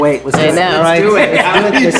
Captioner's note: group laughing